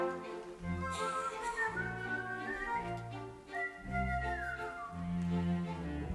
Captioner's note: Frank whistles; orchestra music